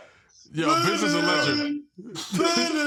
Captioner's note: imitating biz markie; desus and mero chuckle